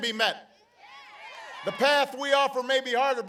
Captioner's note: applause